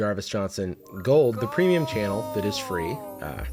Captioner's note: disembodied voice